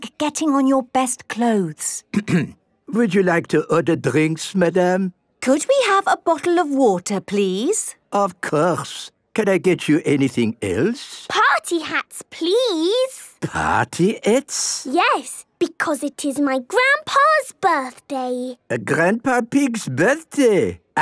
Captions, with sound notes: getting on your best clothes. - (clears throat) Would you like to order drinks, Madam? - Could we have a bottle of water, please? - Of course! Can I get you anything else? - Party hats, please? - Party hats? - Yes! Because it is my Grandpa's birthday. - Grandpa Pig's birthday?